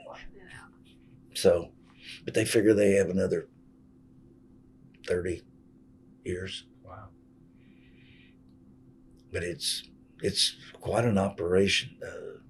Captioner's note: laughs